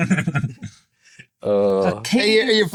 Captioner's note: all laughing